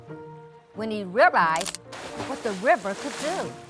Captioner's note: water splashing